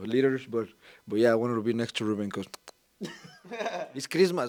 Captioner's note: kiss sounds